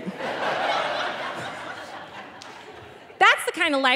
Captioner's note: audience laughing